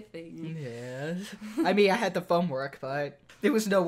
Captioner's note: chuckles